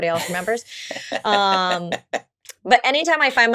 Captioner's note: laughs